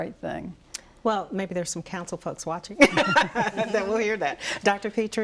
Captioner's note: laughs